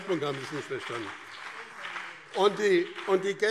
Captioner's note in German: Beifall BÜNDNIS 90/DIE GRÜNEN und CDU - Zurufe SPD